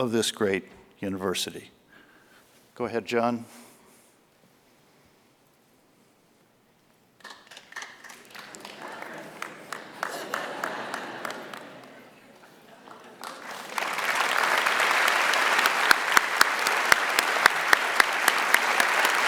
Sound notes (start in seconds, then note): 7.2 applause